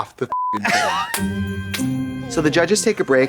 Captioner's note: beep; festive chime